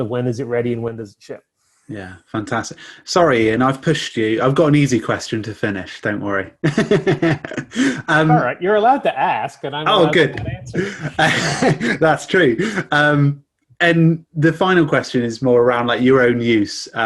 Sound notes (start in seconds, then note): 6.6 chuckles